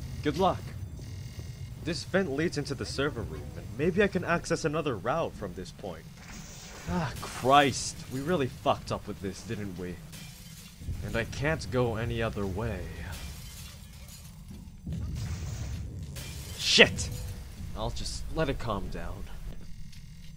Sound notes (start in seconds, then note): 6.4 explosion; 7.1 zap; 16.1 explosion; 16.1 zap